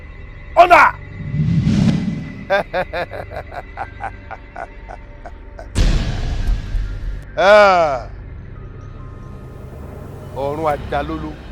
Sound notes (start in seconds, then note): 2.4 laughs